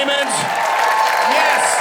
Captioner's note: audience cheering